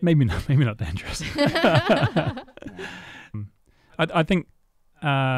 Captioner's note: laughing